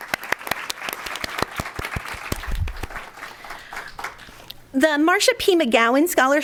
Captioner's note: applause